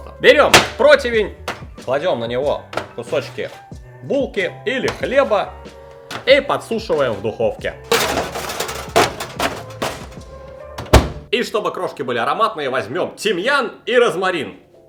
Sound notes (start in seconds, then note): 7.8 smashing